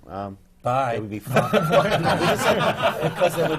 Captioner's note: laughter